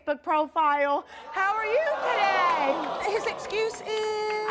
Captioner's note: audience groaning